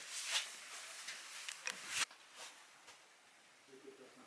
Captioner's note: shuffling